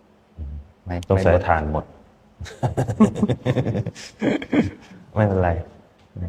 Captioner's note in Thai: เสียงหัวเราะ